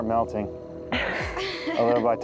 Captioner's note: contestants laughing